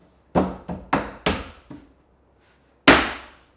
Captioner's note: wood bangs